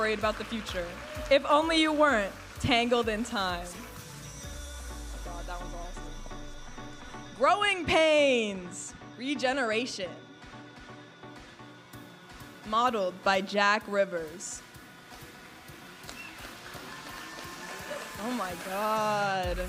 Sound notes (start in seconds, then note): 11.1 upbeat music; 16.6 audience applauding and cheering